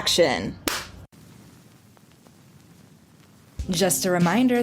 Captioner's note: director's clap